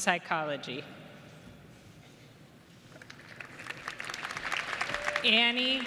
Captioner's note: applause